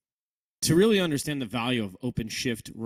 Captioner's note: voiceover